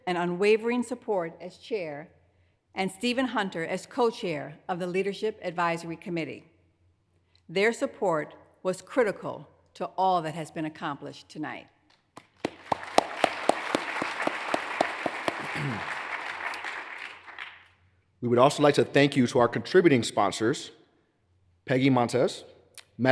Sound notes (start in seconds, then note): 12.1 hands clapping; 12.2 audience applauds